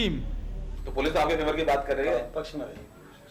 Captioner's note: speaking hindi